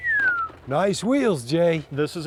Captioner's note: whistling